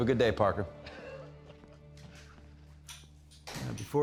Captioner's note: chuckling